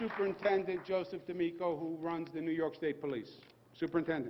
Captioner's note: applause